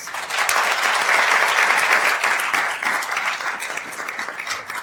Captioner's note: attendees applauding